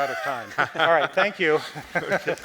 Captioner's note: presenters laughing